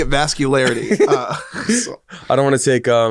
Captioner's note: both chuckle